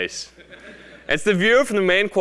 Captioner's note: laugh